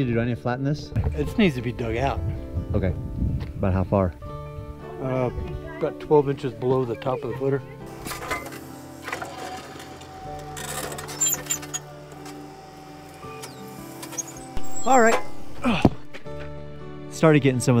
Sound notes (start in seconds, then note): 8.0 metal clanging